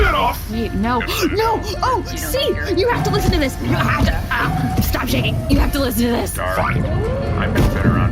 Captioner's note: choking